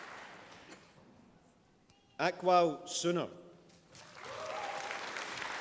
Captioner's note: applause